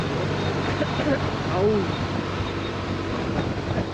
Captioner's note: coughing sound